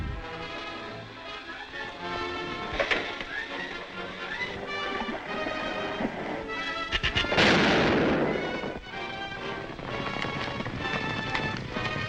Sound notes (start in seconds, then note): 0.2 exciting music continues; 0.2 horses galloping; 6.9 weapon fires; 7.4 robot clicks; 9.0 horses galloping